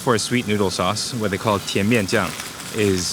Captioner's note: speaking in foreign language